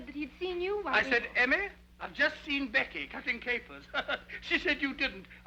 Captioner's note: laughs